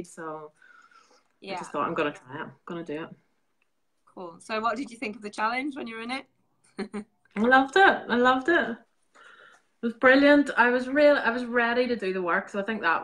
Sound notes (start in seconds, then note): 6.7 laughing